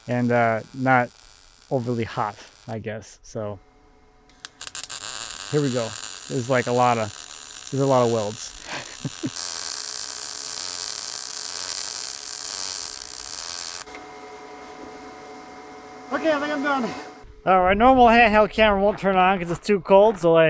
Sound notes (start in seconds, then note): 8.6 laughs; 9.7 tool crackles